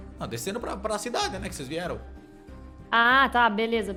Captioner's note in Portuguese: none